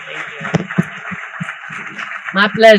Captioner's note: applause